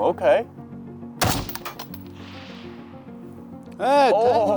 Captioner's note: gun fires